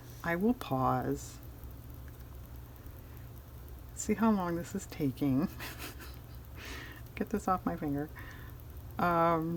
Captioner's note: laughs